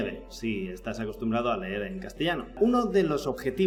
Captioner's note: Jon Nieve in spanish